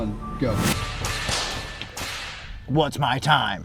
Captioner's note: whip snaps